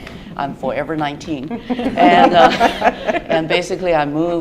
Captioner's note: laughter